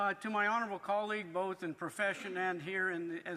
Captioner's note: speaking French